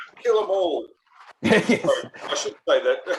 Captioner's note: laughs